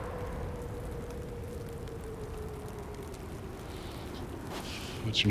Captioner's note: wind whooshing; fire crackling